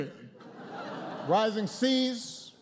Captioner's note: laughter